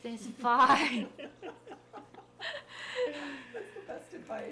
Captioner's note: people laughing